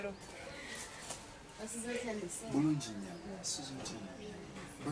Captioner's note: speaking native language